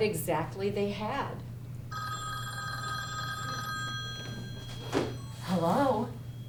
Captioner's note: phone rings offstage